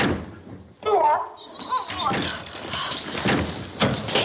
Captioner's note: grunts; gagging